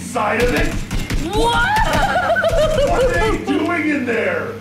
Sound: yells

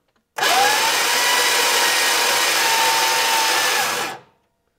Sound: starter revving

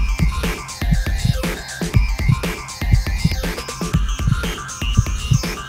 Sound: heartbeat thudding

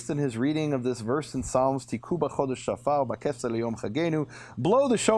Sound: speaking in a foreign language

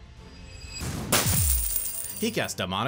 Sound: glass breaks

